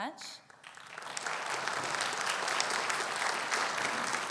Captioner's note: audience applauds